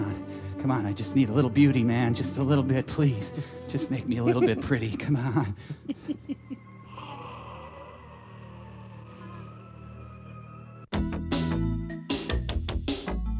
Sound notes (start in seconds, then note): 9.6 humming